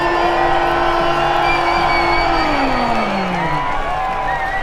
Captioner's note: crowd cheering